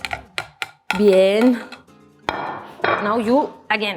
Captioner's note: speaks in Spanish